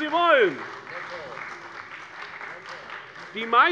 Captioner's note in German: Beifall bei der CDU und dem BÜNDNIS 90/DIE GRÜNEN